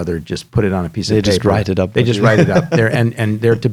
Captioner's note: laughs